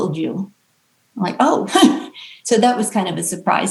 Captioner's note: chuckles